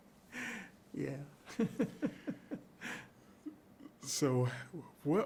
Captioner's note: chuckles